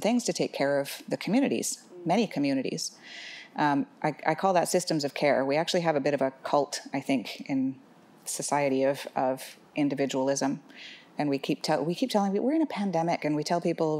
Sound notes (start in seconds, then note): none